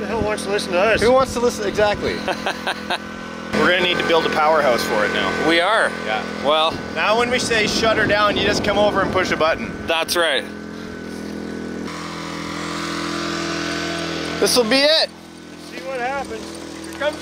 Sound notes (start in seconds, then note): 2.1 laughing; 11.9 engine roaring